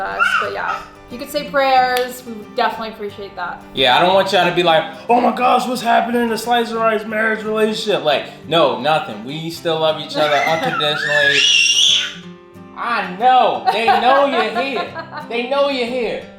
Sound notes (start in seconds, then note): 10.1 screaming